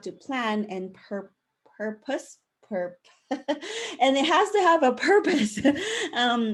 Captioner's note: laughing